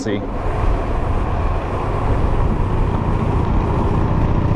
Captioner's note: electric motor whirs